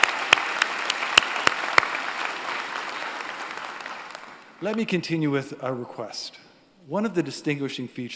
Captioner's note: applause